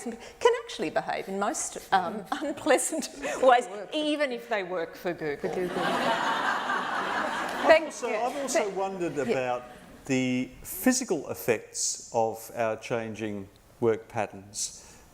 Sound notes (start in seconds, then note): 5.6 laughter